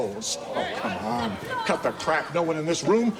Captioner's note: jeering